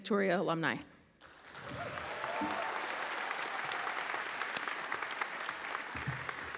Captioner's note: audience cheers and applauds